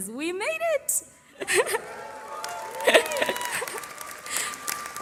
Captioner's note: cheering